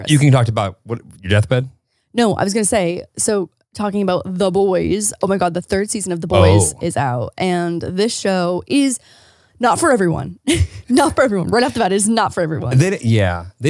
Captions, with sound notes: - You can talk about what? your deathbed. - No, I was gonna say, so talking about the boys, oh my God, the third season of "The Boys" is out. And this show is not for everyone. (chuckles) Not for everyone. Right off the bat, it is not for everyone. - Yeah.